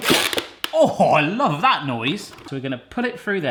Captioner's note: plastic creaking